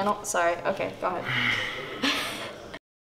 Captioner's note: sigh; laughing